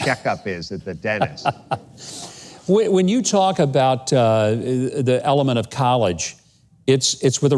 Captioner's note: chuckles